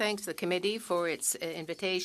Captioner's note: speaking French